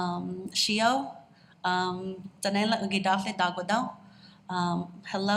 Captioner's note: speaks in Tsalagi